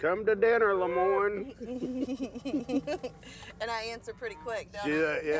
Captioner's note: laughs